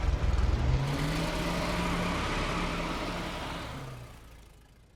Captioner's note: engine revving